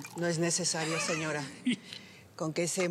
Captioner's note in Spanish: risas de el teca